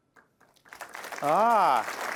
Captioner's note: applause